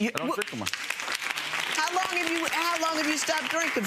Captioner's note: audience applauds